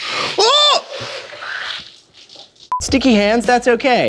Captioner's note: yells